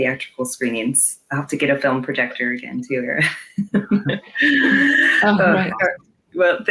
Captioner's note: laughs